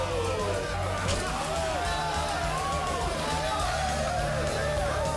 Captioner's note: crowd; crowd cheering